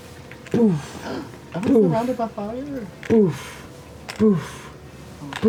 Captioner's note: boof, boof, boof